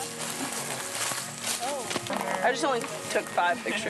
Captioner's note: indistinct chatter